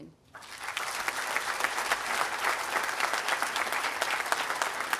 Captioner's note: audience applauding